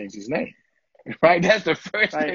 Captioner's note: laughter